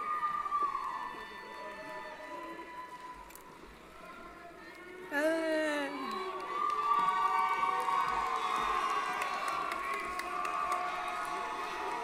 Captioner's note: applause & Cheering